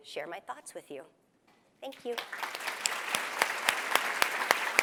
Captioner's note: applause